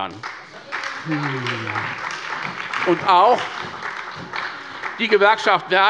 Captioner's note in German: Beifall bei Abgeordneten der SPD